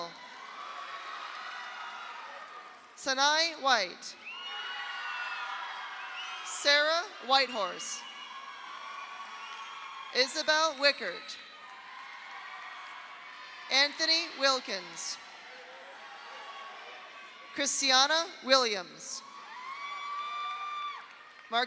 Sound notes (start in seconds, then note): 0.0 audience cheers; 0.3 audience applauds; 4.2 audience cheers; 4.3 audience applauds; 8.0 audience cheers; 8.1 audience applauds; 11.4 audience cheers; 11.5 audience applauds; 15.2 audience applauds; 15.3 audience cheers; 19.2 audience cheers; 19.4 audience applauds